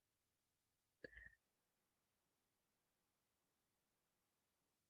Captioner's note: silence